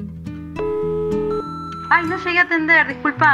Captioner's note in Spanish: Bip contestador automático